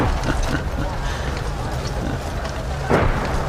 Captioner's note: chuckling